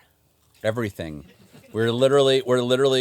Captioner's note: laughs